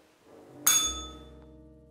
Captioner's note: bell rings